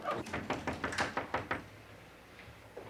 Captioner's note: knocking